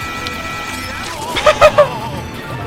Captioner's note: laughter